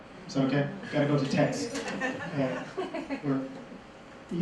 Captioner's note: laughter